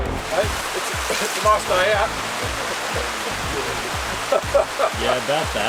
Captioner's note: laughs